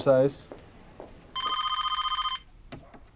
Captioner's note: PHONE RlNGlNG